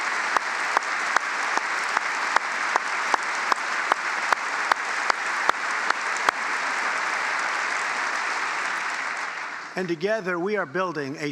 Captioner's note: applause